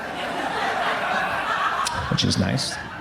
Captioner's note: crowd laughs